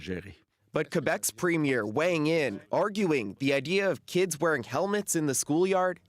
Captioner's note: speaking French